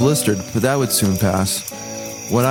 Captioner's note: cricket sounds